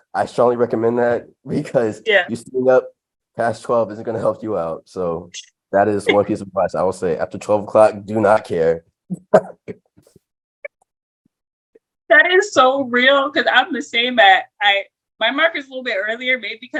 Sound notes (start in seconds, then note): 9.1 laughter